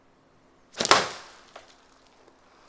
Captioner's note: glass shatters